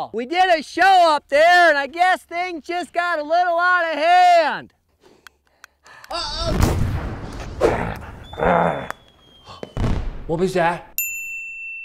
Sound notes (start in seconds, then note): 6.4 exploding; 7.6 dog growling